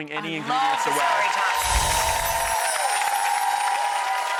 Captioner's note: audience claps